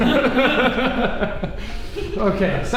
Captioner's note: laughing